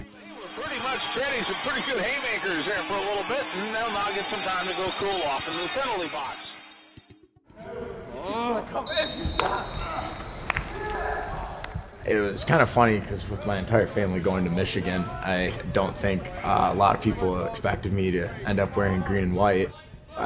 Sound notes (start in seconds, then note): 8.8 whistle blows; 9.0 athletes grunt and groan